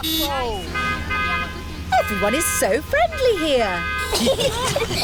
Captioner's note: honking; italians honk back; all giggling